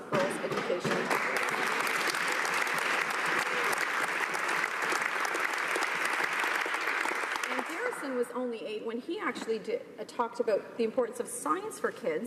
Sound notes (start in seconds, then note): 6.8 applause